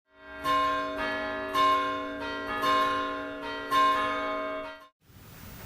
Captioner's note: bells Ringing